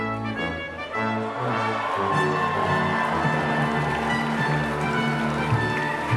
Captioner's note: cheering